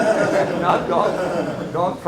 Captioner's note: laughing